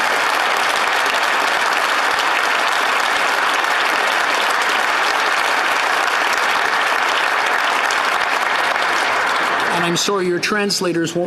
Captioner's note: applause